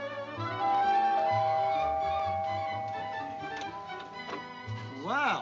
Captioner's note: door bell